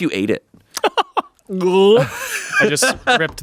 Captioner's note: laughs